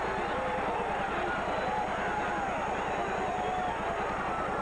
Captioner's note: crowd cheers